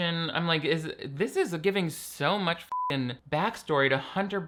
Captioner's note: beep